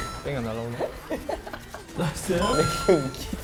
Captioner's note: burst of laughter